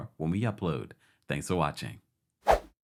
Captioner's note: whooshing outro